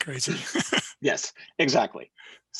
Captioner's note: he chuckles